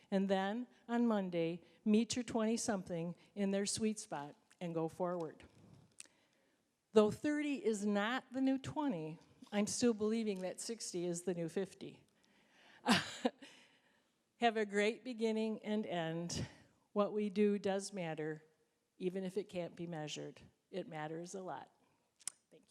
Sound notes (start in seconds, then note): 12.9 laughing